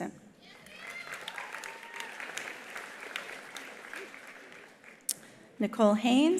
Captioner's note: attendees cheering; attendees applauding